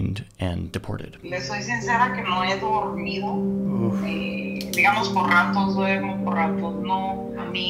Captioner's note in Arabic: تتحدث بلغة أجنبية